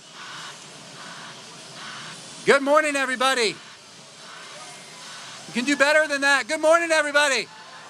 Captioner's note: applause